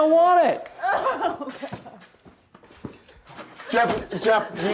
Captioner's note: sobbing